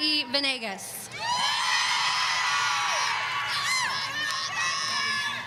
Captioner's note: audience cheering